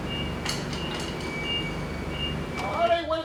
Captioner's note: beeping